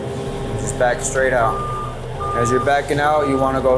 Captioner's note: alarm beeps